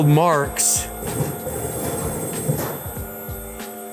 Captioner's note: machine beeps